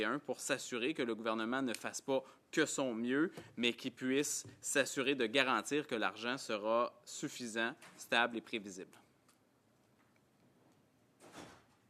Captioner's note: speaking French